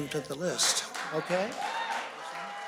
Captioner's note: cheers and applause